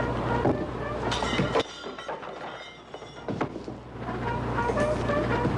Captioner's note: clattering